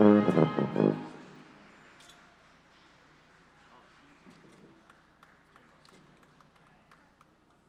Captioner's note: applause